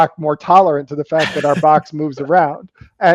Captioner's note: chuckles